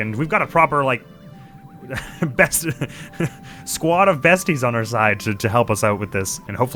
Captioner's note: laughs